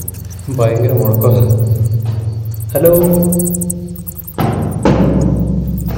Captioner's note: echoes